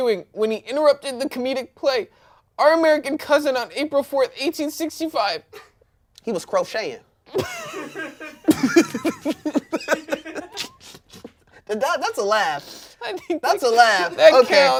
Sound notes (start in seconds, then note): 7.4 everyone laughs